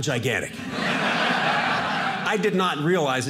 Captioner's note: audience laughing